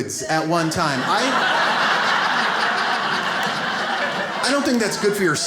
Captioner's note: audience laughs